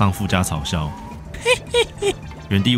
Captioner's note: imitating his laugh